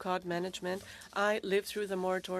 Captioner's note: speaking French